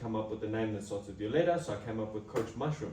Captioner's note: clap